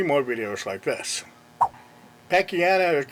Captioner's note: swipe sound effect